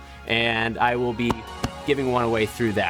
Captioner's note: taps gently